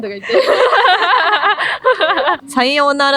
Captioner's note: laughter